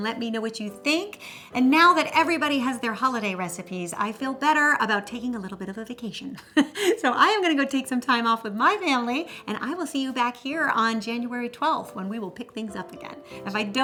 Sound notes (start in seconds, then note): 6.4 laughs